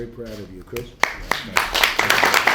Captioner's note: applause